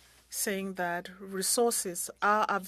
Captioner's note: speaking French